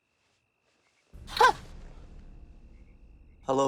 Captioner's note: gasps